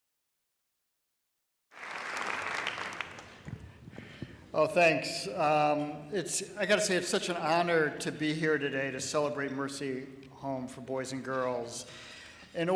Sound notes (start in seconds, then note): 1.7 applause